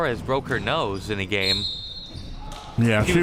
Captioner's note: whistle chirping